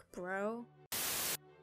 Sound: static

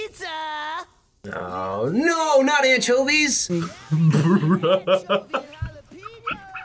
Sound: laughs

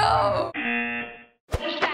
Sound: buzzer

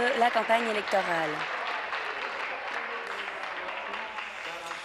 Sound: applause

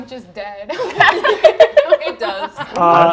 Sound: players laughing

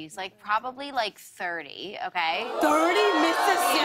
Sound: audience ohhs

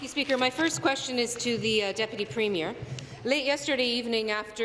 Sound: applause

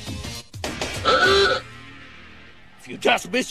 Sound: car horn

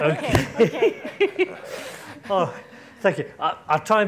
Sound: laughing

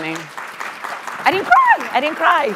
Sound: audience applauding

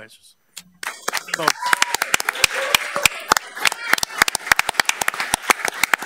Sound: all applauding and cheering

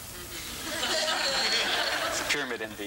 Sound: laughter

